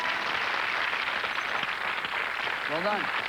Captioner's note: applause